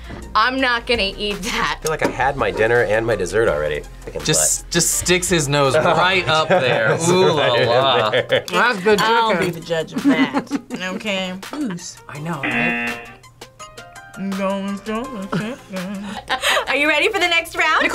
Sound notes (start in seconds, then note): 5.6 laughs; 10.0 laughs; 12.4 buzzer